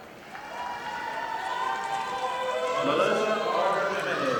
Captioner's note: audience applauding